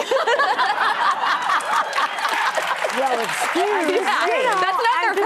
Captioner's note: laughter